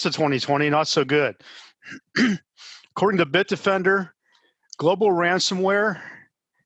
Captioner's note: cough